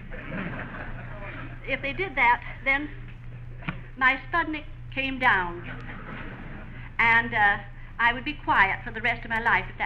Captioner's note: laughter